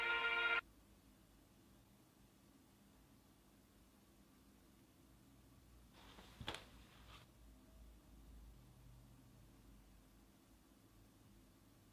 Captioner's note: music stops. Silence